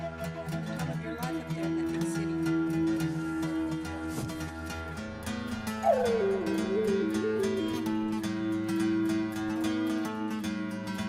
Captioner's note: indistinct chatter